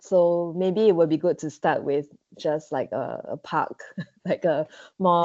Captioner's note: laughs